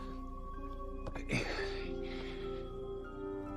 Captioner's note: exhales